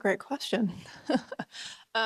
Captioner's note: laughs